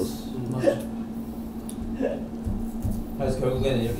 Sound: laughing

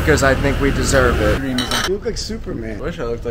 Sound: glasses clink

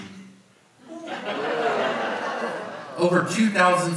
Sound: audience laughs

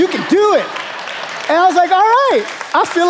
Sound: congregation applauding

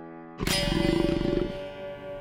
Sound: growling

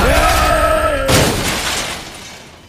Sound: bat-crash

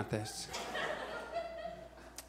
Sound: audience laughs

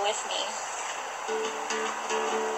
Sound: background ocean sounds

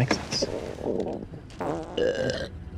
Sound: tummy grumbles, farts, then belches

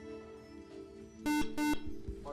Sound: buzzer

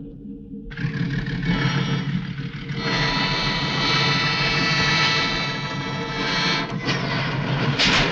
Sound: train horn blares

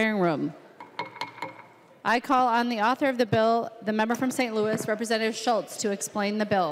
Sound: gavel

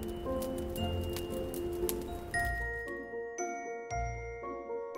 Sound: fire crackling

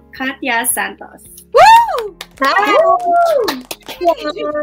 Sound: cheering

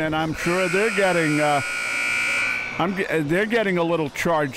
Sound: buzzer sounding

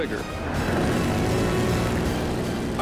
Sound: gunfire

